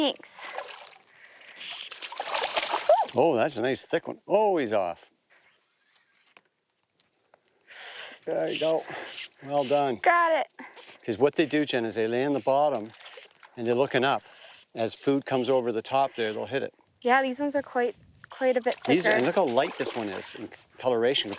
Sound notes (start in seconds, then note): 2.8 shrieks